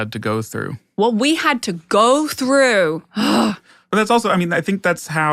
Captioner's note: groans